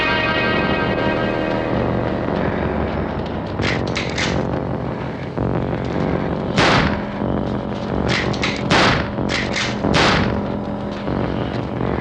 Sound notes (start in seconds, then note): 3.5 rifle cocks; 6.5 gunshot; 8.0 gunshots